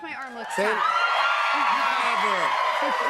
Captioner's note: cheers and applause